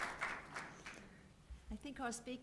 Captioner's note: applause